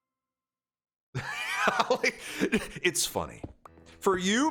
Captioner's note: laughs